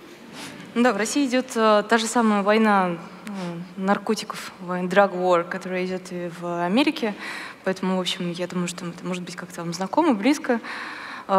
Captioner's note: foreign Language